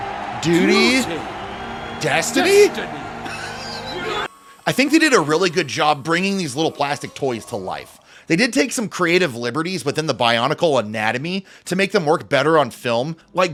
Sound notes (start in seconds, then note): 3.2 laughter